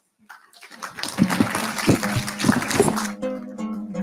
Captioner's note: audience applauding; calming music